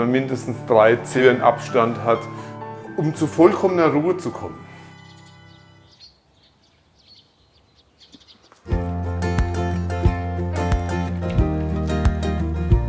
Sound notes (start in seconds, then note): 6.3 birds chirping; 8.6 lighthearted music